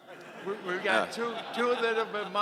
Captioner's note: audience laughing